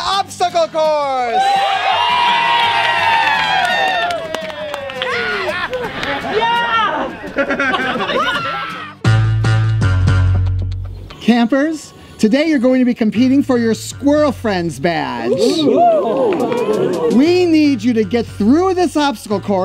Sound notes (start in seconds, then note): 1.3 cheering; 9.8 upbeat music